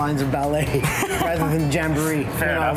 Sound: laughing

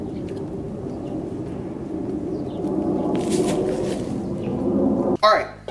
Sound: airplane engines whir

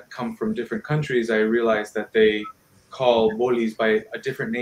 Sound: speaking in foreign language

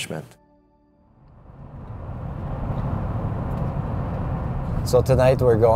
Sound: car driving along road

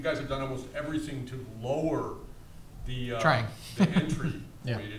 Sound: chuckles

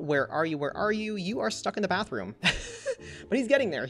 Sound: laughs

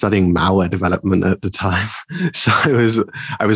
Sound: chuckling

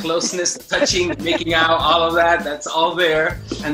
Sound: laughs

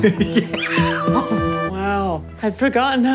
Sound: laughing

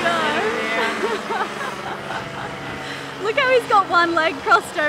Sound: laughing

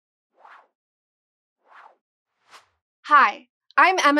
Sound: whoosh

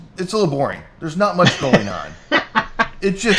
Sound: laughs

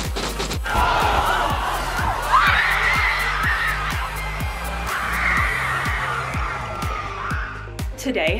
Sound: cheering

